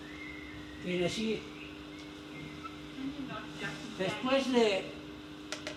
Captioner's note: in Spanish